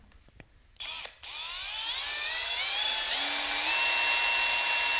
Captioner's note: power tool noise